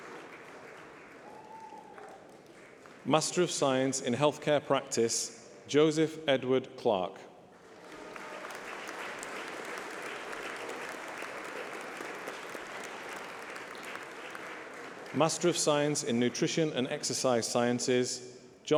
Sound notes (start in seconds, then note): 11.1 applause